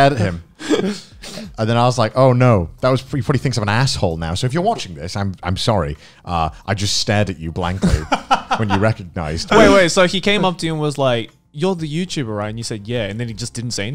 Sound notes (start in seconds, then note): 7.7 laughs